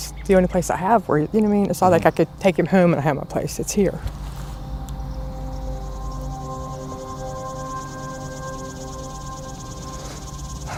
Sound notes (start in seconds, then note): 4.8 breaking down